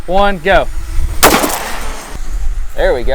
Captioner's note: loud bang